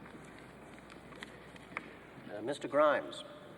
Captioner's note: paper crackling